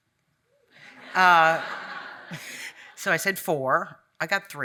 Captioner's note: audience laughing